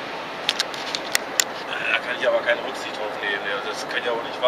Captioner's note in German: Krächzer